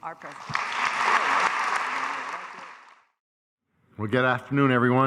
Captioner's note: audience applauding